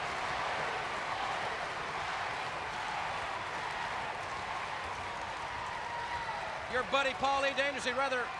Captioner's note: crowd cheering